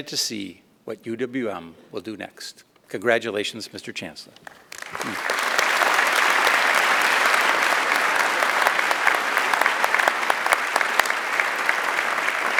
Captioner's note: applause